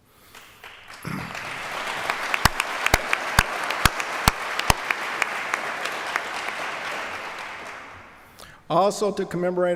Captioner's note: applause